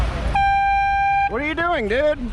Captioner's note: air horn